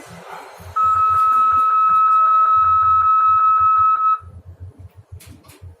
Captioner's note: nudge mode alarm